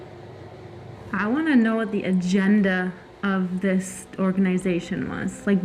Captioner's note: none